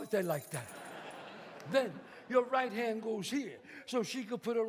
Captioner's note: audience laughs